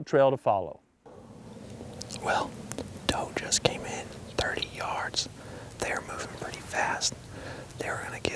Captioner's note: whispering